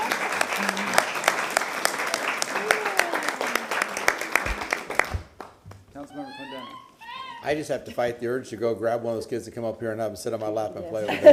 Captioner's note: applause